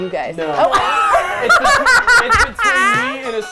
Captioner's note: laughing